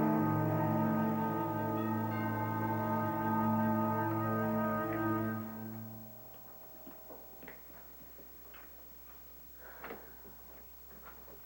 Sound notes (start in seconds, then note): 3.4 doorbell rings